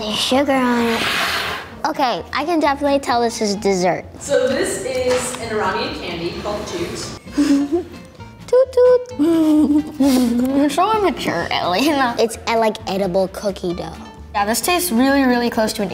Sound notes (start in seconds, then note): 9.1 giggles